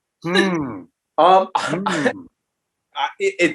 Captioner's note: laughing